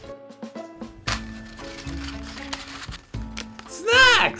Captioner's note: paper clattering